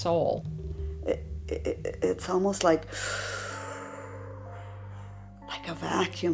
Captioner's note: inhaling deeply